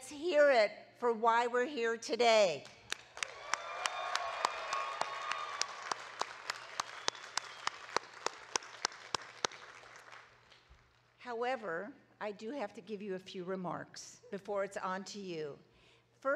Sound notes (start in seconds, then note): 2.9 audience cheering and clapping